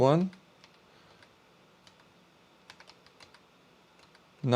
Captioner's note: keyboard clicking